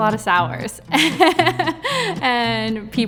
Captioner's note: laughing